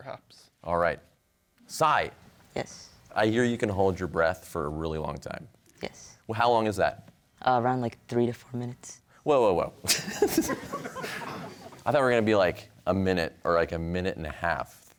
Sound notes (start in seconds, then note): 9.8 laughter